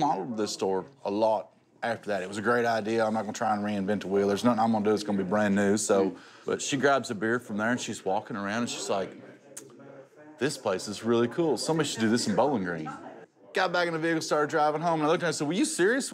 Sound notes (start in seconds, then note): none